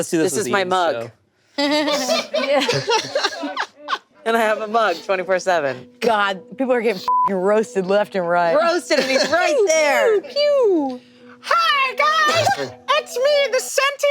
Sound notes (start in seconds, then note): 1.6 group laughing; 7.0 beep